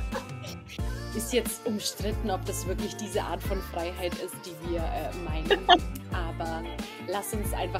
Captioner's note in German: lachen; lachen